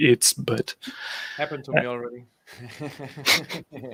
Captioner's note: chuckles; laughs